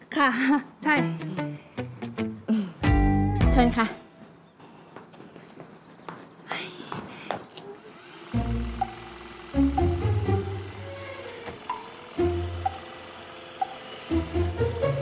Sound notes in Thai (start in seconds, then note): 7.5 เสียงหุ่นยนต์ดูดฝุ่น